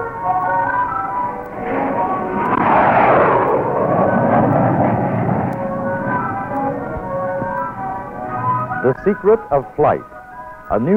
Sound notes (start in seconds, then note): 2.6 jet engine roaring